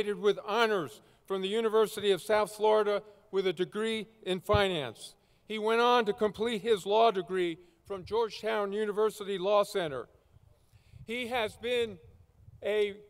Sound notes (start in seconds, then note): none